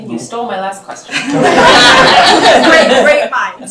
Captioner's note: laughter